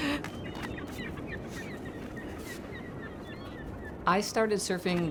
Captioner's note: seagulls calling